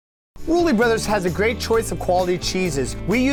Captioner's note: voiceover